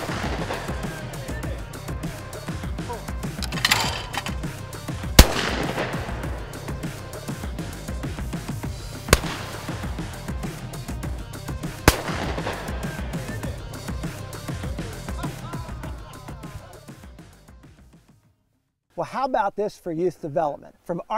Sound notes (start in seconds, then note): 4.0 fast Paced Music; 5.1 sound of Shotgun firing